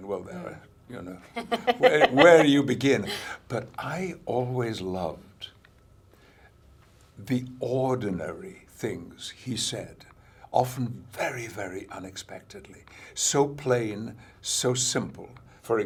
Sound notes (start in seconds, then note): 1.3 laughs